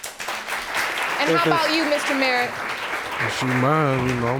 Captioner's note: audience clapping